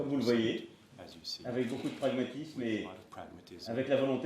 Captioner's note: speaks French